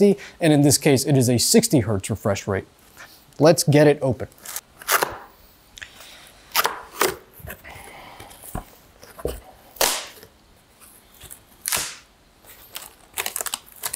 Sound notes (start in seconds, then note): 4.5 box crackling; 9.8 box snapping